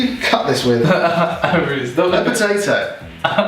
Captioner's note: laughing